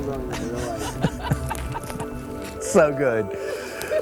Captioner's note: laughing